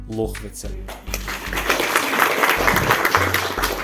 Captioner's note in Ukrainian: оплески